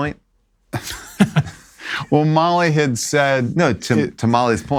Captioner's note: laughs